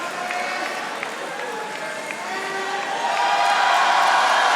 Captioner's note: audience applauding